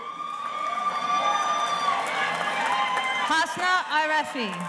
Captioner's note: audience cheers and applauds